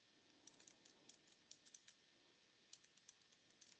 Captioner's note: fast typing